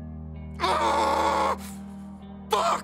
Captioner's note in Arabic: صراخ